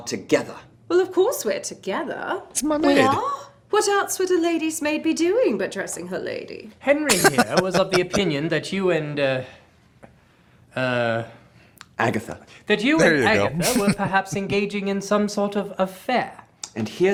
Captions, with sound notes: It's my maid. [Laughing] There you go. [Chuckling]